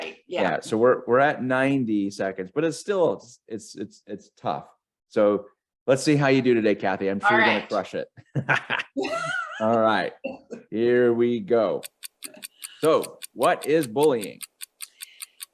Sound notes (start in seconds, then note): 8.3 laughs maniacally; 8.5 laughing; 11.7 timer ticking